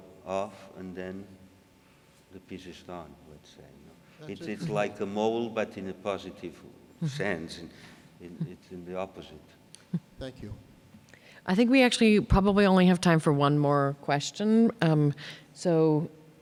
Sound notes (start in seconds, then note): 10.2 voiceover